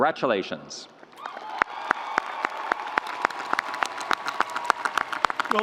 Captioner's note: audience applauding